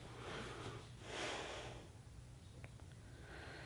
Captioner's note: sigh